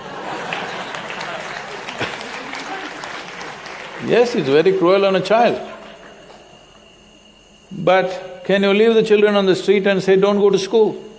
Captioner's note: applause